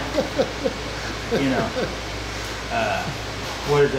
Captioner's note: laughing